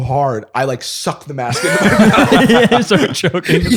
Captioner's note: laughter